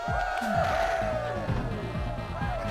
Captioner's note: cheering